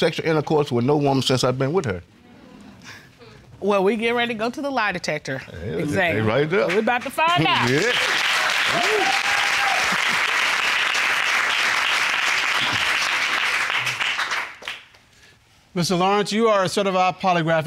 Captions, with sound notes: What did the forensic voice analysis determine? The forensic voice analysis determined that she was being truthful, Your Honor. [applause] -There was a second question, correct? -Yes, ma'am.